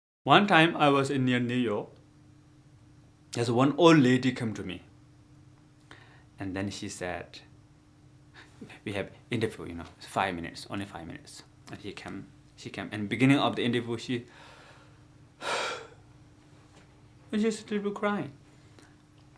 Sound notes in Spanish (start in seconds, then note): 15.4 Suspiro